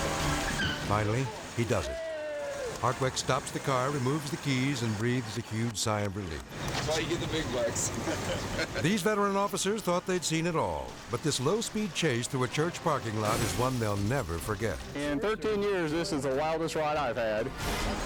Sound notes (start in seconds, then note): 0.0 tires squeal; 7.7 laughs